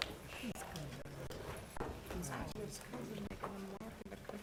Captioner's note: board chatting quietly